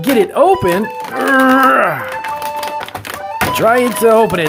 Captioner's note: grunts